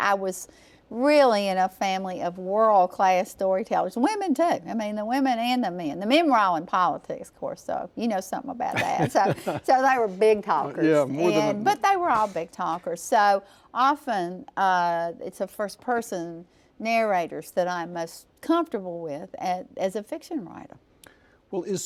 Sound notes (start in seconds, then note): 8.7 laughs